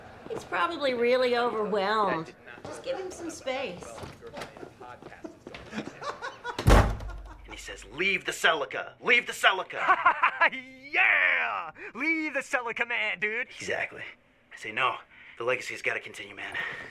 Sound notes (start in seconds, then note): 5.5 dad laughing; 9.7 Marvin laughing